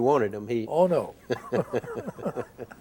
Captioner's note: both chuckle